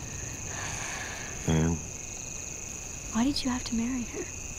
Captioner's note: Sighs